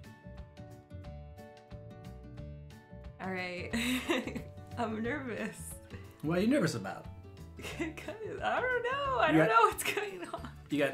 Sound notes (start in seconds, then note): 3.7 chuckles